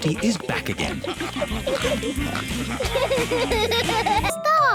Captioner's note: all giggling and snorting